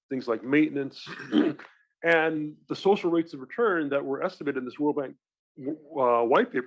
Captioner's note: cough